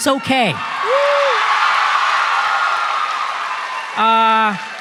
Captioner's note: applause